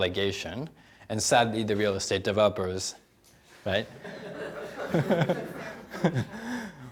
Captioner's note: laughing